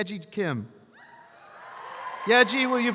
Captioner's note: audience applauds